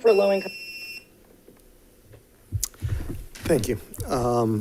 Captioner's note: beeps